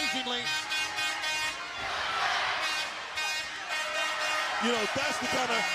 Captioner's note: air horn blowing repeatedly